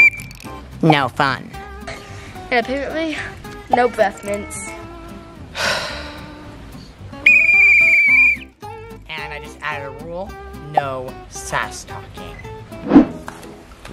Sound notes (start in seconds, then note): 0.0 whistle blows; 5.5 lifeguard sighs; 7.2 whistle blows